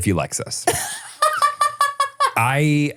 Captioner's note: laughs